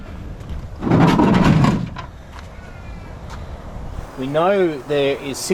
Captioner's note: boat scrapes concrete loudly